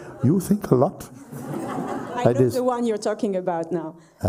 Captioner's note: laughter